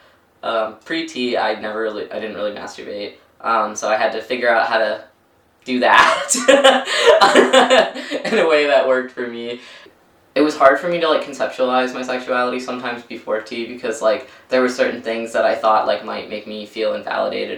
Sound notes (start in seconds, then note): 5.9 laughs